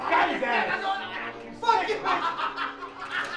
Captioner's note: speaking in tongues